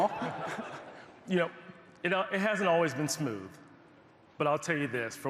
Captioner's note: laughter